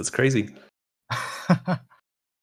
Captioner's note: distant fake laughing